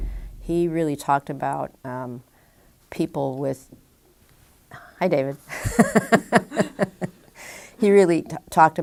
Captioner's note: chuckle